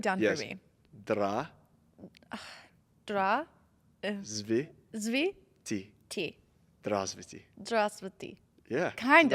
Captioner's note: attempting to speak in Russian; speaking in Russian